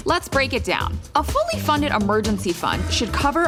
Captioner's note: none